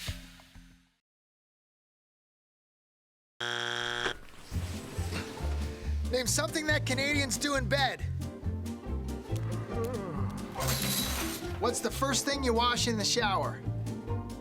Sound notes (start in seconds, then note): 3.4 game show buzzer; 9.6 he yawns